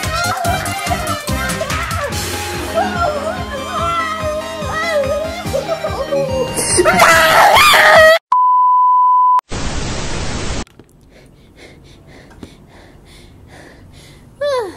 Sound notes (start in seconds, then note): 6.3 fishy yells loudly twice; 8.3 loud beep; 9.4 static; 11.1 panting